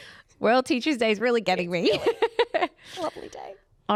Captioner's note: laughs